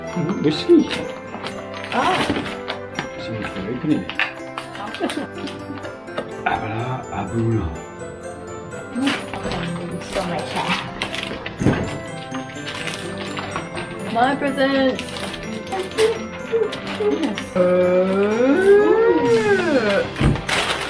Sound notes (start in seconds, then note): 4.7 laughs